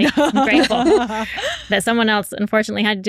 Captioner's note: laughing